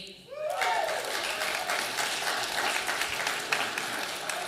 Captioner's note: audience applauding